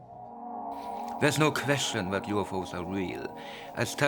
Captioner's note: people chattering